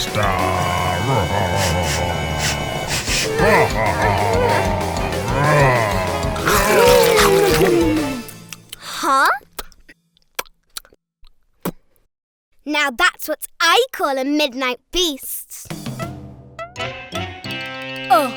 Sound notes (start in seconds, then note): 0.7 sniffing; 3.0 growling laugh; 3.0 nervous groaning; 6.7 chomping; 10.2 smacking lips; 15.8 surprised music